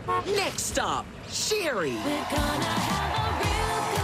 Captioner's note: car horn honks